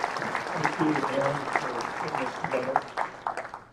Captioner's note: applause